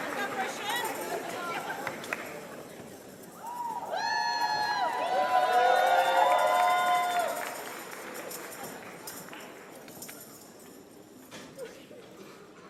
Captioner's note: applause and cheers